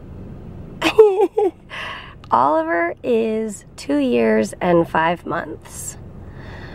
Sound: laughs

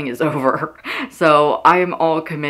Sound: laughing

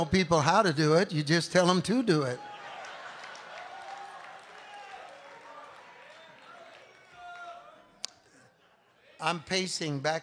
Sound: congregation laughing

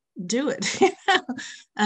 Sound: laughs

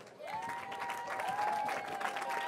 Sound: cheering

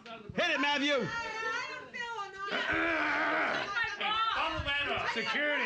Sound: loudly grunting; audience shouting

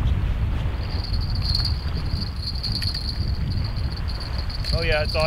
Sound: jingling

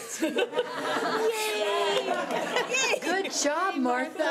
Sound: cheering

